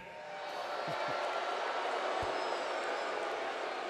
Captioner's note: crowd boos